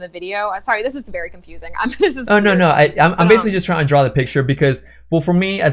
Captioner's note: laughs